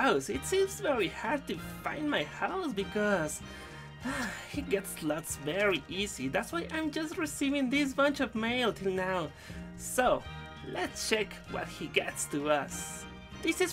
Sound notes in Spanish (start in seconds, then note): 3.9 suspiro